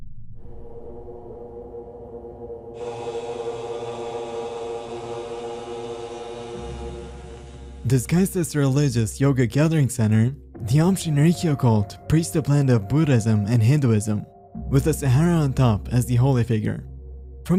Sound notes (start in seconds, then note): 0.4 distant chanting; 2.8 chanting